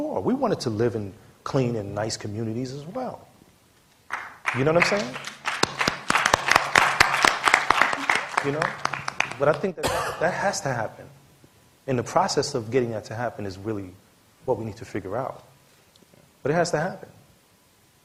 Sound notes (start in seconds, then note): 4.1 applause